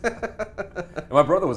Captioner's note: laughs